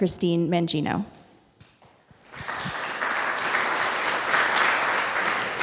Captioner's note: audience applauding